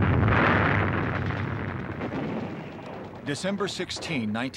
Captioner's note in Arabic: انفجار